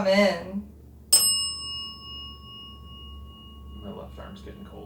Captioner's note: bell dings